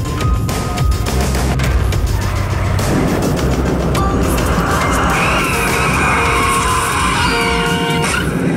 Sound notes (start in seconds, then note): 6.7 tires squeal louder